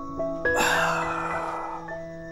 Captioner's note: Grunts